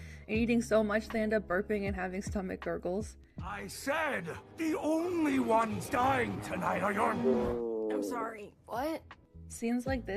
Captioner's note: burps